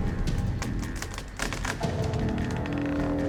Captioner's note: crackling